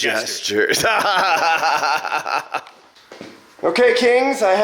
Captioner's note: laughing